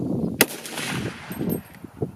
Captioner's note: gun fires